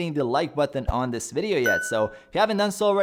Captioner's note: bell dings